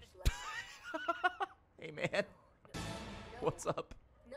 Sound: laughs

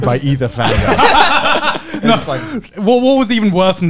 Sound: men laughing

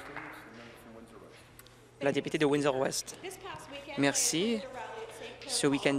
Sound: applause

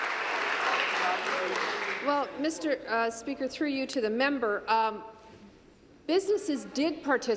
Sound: applause

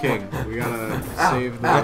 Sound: huff huff huff

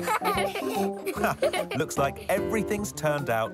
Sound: laughter

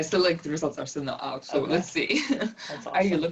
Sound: laugh

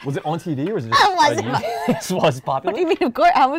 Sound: laughs

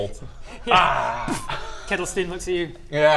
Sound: boof

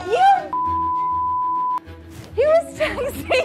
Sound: beeps

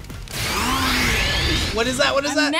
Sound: both Pokémon snarl

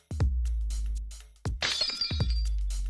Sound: glass shatters

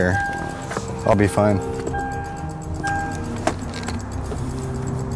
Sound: car beeping

